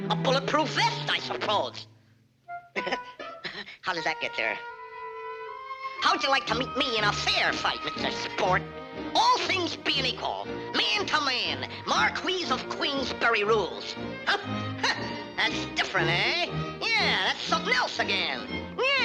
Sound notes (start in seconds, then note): 2.7 chuckles; 14.5 scoffs